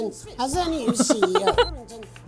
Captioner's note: chuckles